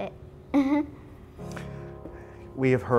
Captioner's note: laughs